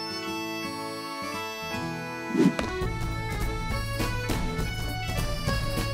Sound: none

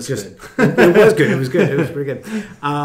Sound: laughing

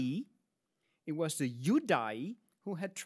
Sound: speaks in Latin

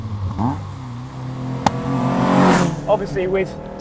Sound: engine revs

